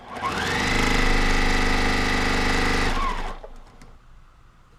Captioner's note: sewing machine whirrs